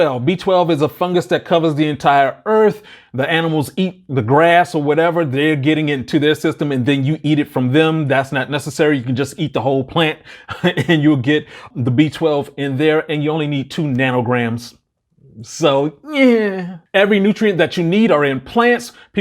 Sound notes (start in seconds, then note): 10.4 laughs